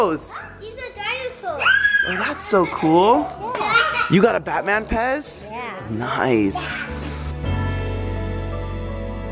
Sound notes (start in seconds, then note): 3.7 laughs